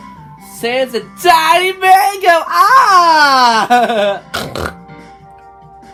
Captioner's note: snorts 2x